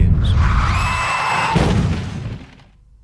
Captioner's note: screaming, crash